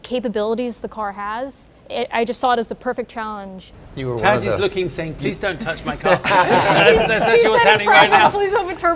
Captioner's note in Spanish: laughing